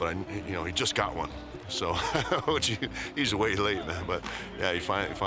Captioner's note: laugh